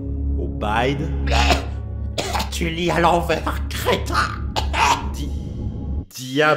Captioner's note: cough